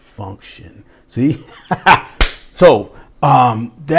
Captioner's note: claps